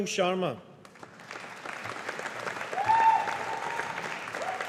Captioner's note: audience applauding